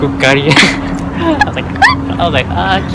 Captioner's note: laughs